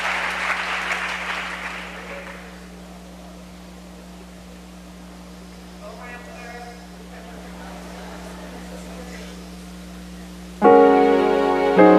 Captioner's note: cheers and applause